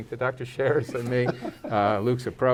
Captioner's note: laughs